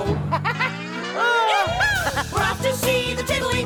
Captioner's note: laughter